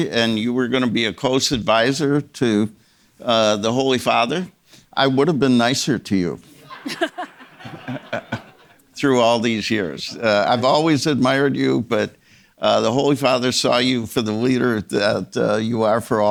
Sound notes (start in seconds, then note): 6.6 audience members laughing